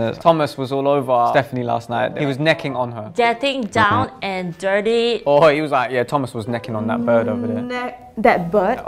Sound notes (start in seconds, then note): 3.8 buzzer buzzes